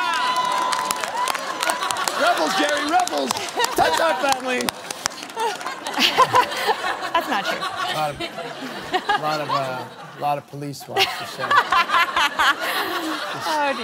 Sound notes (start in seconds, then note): 5.2 nervous laughter; 10.9 laughing